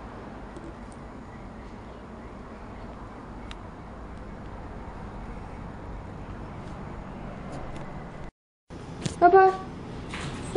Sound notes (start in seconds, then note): none